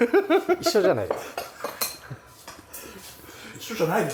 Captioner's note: laughs; laughs